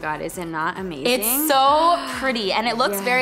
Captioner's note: gasps